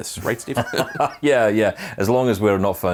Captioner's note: laughing